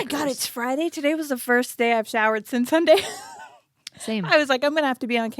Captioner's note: laughs